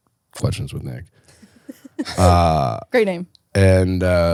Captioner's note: laughs